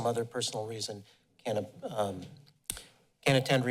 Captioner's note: smacks lips